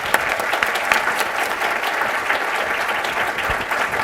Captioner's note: applause